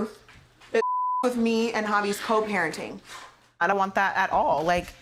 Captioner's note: beep